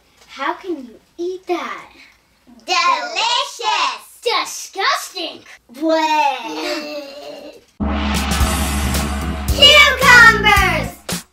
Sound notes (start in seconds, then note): 5.8 gagging sounds